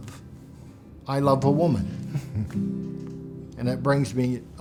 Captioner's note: chuckles